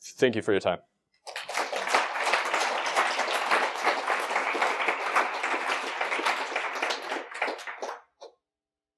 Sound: applause

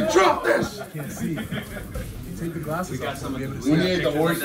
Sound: laugh

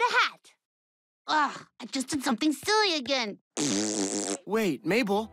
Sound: blows raspberry

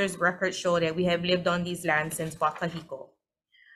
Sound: speaks foreign language

